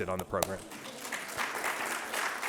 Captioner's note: applause